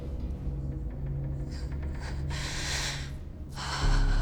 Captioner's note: breathing sharply